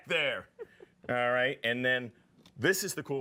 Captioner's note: laughing